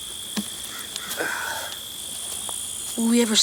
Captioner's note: Anthony sighs